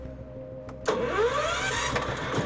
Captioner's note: cranking